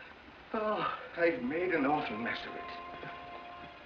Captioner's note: sighs; distant bugle call